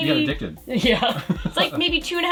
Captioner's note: laughs